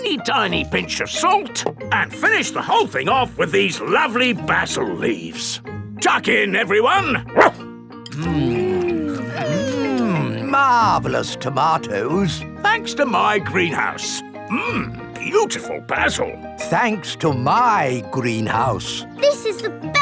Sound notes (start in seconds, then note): 7.3 barks